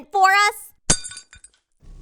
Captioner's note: glass shatter